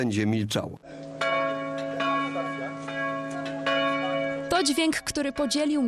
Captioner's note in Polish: Dźwięk dzwoniącego dzwonu